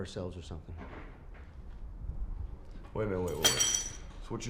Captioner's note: objects clattering lightly